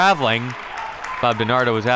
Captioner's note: crowd clapping